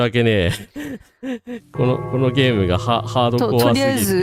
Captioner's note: laughter